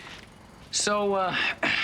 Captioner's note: clears throat